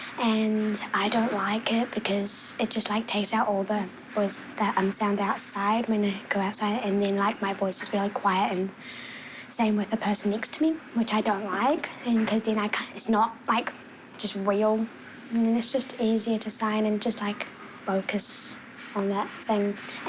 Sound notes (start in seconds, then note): none